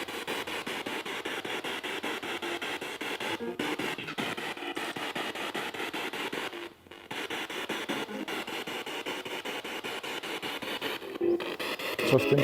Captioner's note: noise of the spiritbox in the background